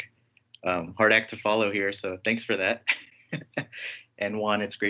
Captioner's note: laughs